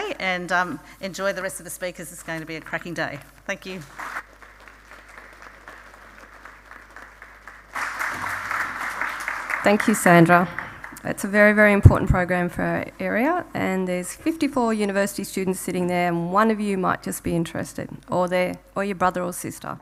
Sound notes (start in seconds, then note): 3.9 audience applauding